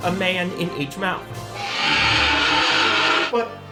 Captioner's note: shrieking